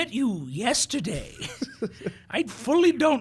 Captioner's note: chuckling